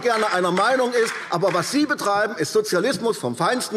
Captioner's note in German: Beifall AfD